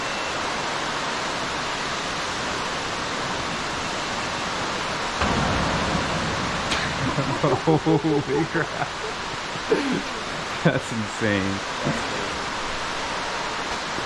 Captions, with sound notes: (crash) (laughing) that's insane